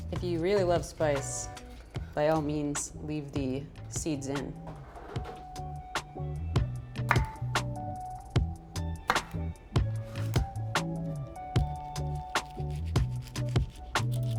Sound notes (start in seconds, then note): 7.1 knife thuds; 10.3 bright upbeat music continues